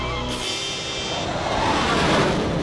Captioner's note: whooshing